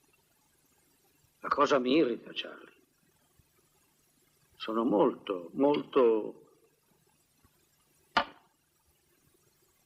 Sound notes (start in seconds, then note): 7.1 clattering